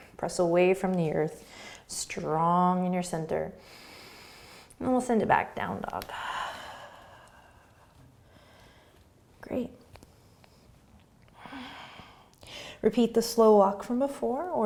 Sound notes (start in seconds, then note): 3.6 breathing; 6.1 exhaling